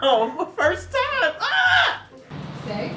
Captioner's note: screams